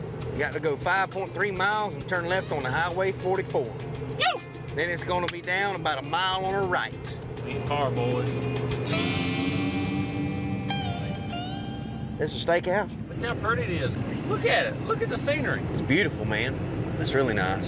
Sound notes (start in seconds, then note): 5.2 claps